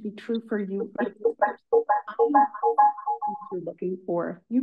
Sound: audio interference

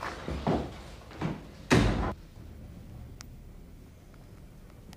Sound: door closes

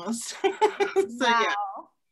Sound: laughing

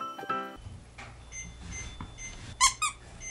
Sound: beep Beep

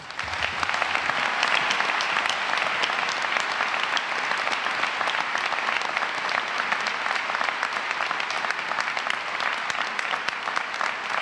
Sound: applause

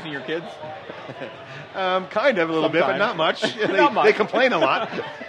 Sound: laughs

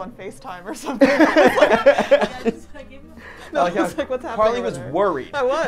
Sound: all laughing

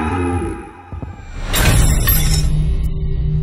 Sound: glass shatters

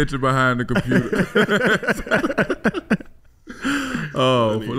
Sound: all laughing

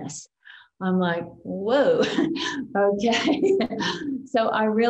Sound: chuckles

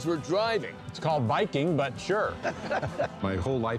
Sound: both laugh

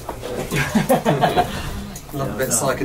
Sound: laughs

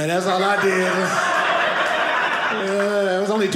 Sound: audience laughing

